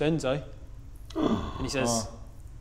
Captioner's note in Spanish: Respiro de sorpresa